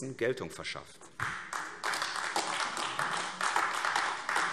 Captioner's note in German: Beifall AfD